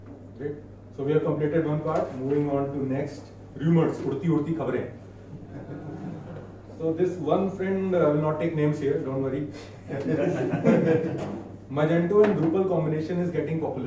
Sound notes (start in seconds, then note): 6.6 members laughing